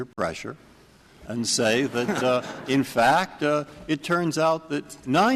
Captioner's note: laughter